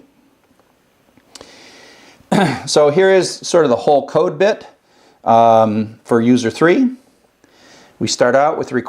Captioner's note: cough